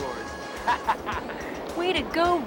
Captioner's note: laughing